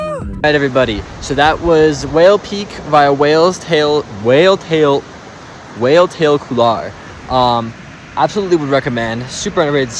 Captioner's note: struggling